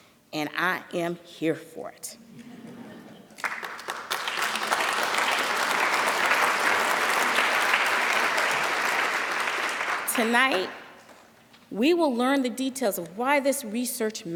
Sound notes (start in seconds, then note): 3.3 applause